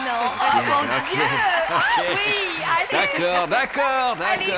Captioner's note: audience cheers